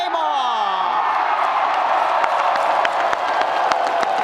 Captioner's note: audience applauding